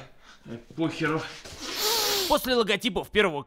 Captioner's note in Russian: Глубокий вдох